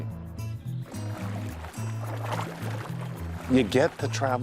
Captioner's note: water splashing